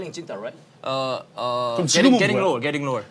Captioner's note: stuttering